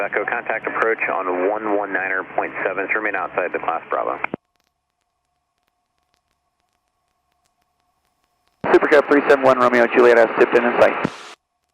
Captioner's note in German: über Flugsicherungsfrequenz